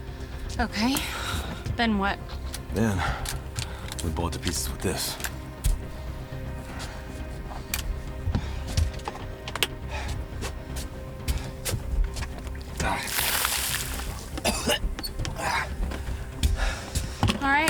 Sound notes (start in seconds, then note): 12.6 liquid splashes; 14.3 Spencer gags